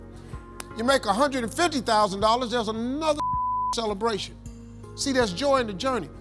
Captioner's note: beep